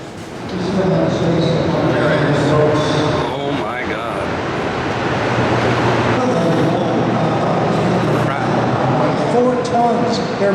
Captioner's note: loud whirring and echoing